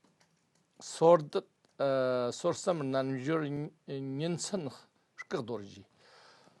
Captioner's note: tibetan